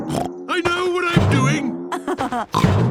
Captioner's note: snorts; laughs